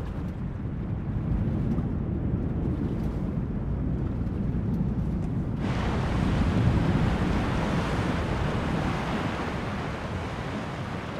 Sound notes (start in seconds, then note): 5.6 waves crashing softly